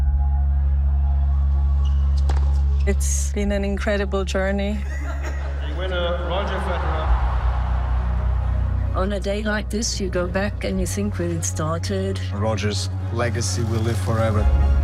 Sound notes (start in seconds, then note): 0.1 soft music; 7.7 crowd cheers